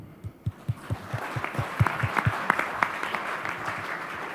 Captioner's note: audience claps